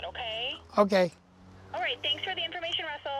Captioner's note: voice on Other End of Phone